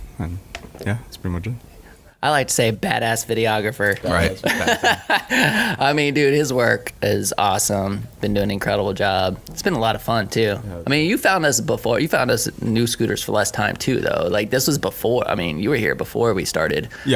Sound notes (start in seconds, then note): 4.1 laughing